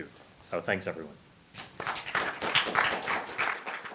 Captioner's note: applause